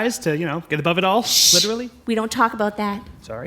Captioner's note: hushing